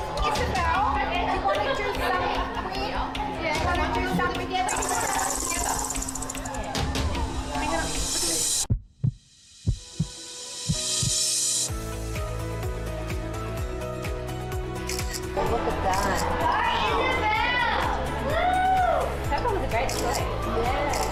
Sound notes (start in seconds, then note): 5.3 dramatic music; 8.6 heart pounding; 11.8 upbeat music; 14.8 camera clicking; 19.8 camera clicking